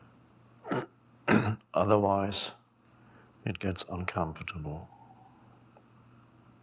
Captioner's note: clears throat